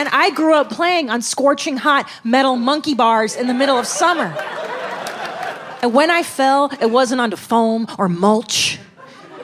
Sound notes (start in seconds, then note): 3.2 audience laughing